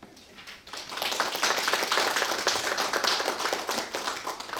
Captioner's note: audience clapping